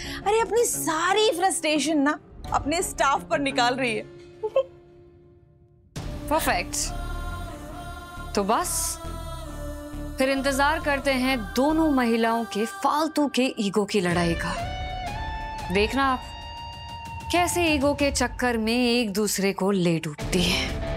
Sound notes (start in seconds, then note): 4.3 laughs